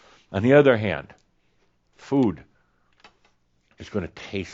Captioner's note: none